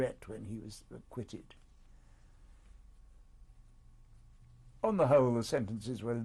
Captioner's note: pauses for 3 seconds